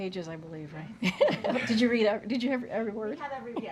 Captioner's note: laughs